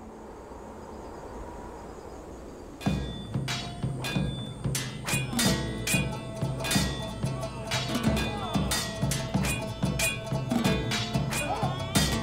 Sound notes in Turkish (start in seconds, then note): 2.8 Savaş sesleri; 3.3 Müzik - Hareketli